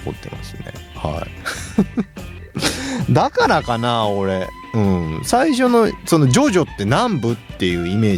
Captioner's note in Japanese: 笑い